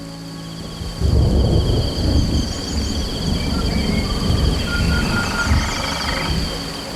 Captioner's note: rain trickling; thunder rumbling